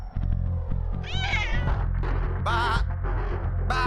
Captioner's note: cat screech